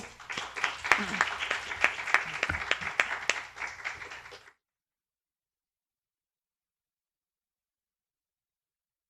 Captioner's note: applause